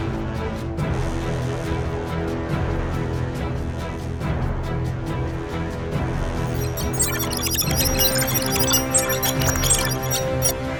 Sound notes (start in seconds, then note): 6.4 male prototype blipping